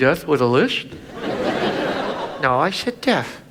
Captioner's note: audience laughs